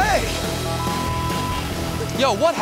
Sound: beep

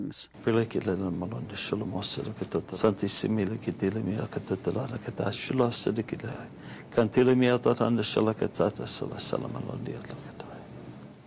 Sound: speaking in tongues

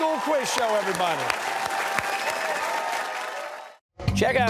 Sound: cheers and applause

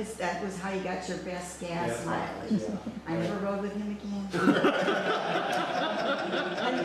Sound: laughs

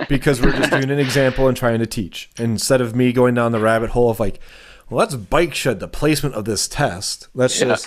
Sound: laughter

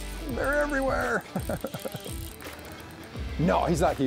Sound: laughs

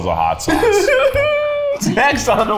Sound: laughs

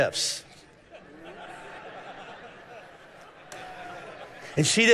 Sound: congregation laughing

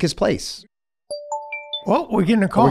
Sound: ringer chimes

